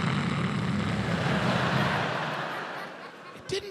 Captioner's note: imitates sun crackling